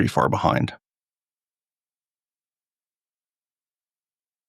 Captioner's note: blank Audio